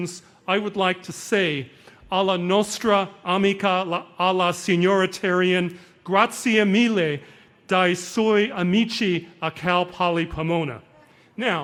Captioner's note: speaking foreign language